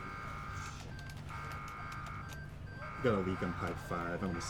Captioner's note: alarms beeping